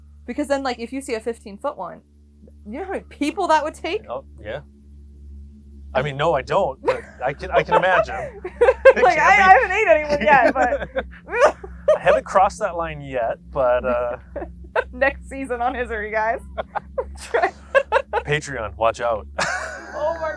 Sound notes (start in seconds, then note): 8.1 both laughing; 17.4 laughs